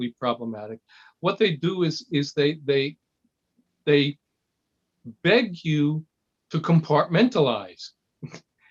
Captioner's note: laugh